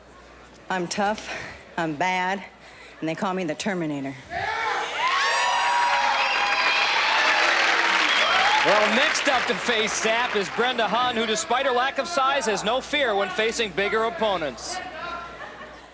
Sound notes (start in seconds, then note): 4.4 cheering